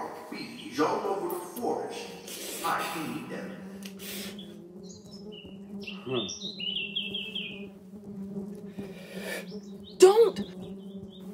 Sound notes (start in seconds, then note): 5.6 bees buzzing